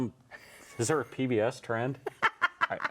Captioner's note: laughs